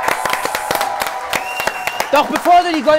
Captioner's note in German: Jubel, Applaus